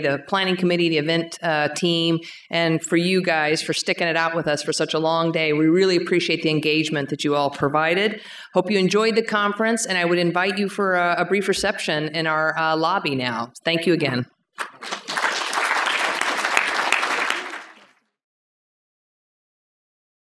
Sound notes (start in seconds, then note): 14.6 applause